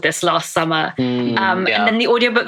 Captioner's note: laughs